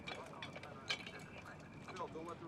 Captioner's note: officer chattering on radio